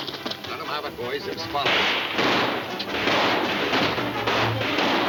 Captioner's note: guns firing